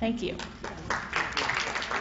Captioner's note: applause